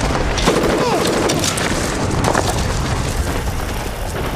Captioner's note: gun firing